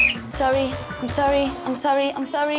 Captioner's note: blows whistle